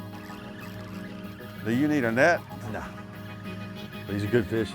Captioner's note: water splashes